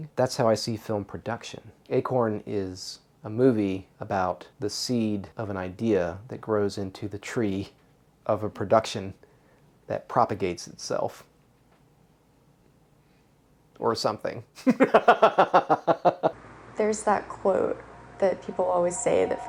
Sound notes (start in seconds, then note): 14.6 laughs